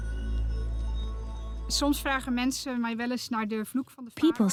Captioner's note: Dutch dubbed in English